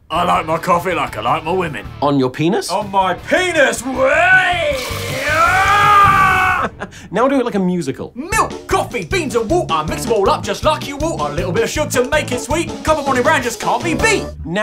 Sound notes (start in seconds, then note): 0.1 rock music; 3.8 sizzling